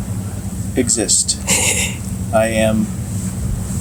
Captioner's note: laughs quietly